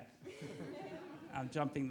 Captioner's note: audience laughs